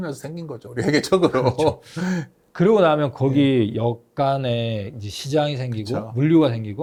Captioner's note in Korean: 웃음